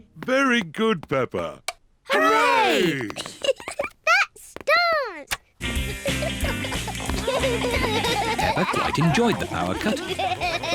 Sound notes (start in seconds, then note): 3.1 giggles